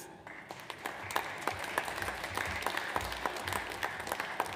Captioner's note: audience applauds